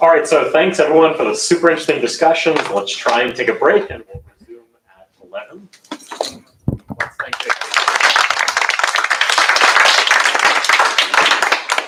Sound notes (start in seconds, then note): 6.9 applause